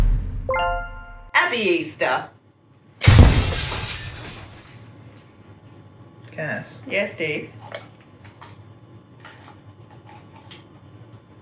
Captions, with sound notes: Happy Easter. (explosion shattering) - Cass? - Yeah $teve.